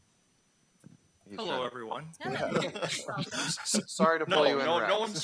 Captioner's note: group clamoring